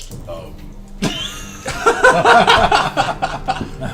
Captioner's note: all laugh